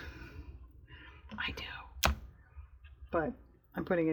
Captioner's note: whispers